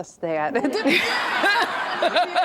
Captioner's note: laughter